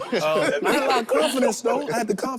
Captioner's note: group laughs